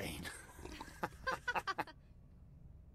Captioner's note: hahaha!